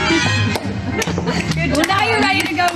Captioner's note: claps